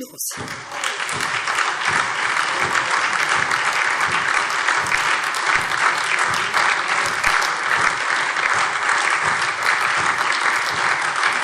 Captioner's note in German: Anhaltender lebhafter Beifall SPD, Freie Demokraten und DIE LINKE